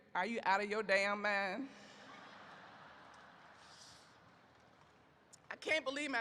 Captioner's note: audience laughs